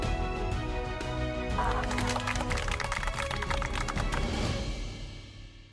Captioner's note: applause